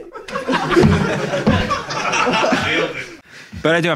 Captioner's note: audience laughing